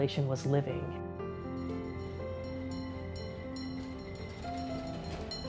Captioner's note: trolley bell ringing